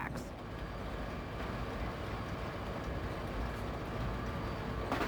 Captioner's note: train rumbling